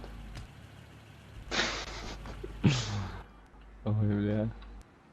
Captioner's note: laughs